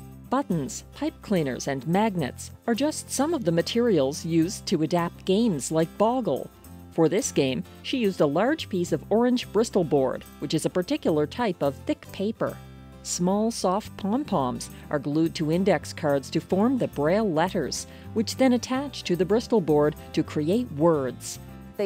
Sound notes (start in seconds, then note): none